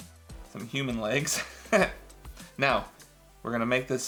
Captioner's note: laughs